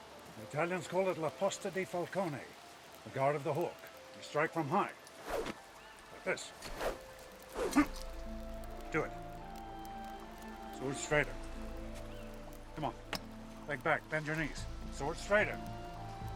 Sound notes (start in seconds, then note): 7.7 grunts